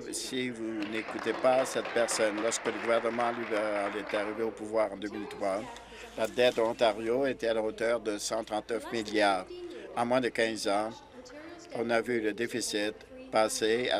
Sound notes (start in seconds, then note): 3.3 applause